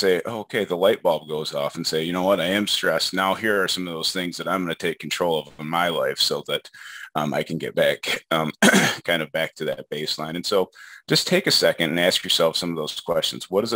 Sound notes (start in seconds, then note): 8.6 clears throat